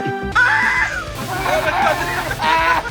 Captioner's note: coughing